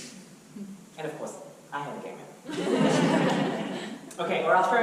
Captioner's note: audience laughter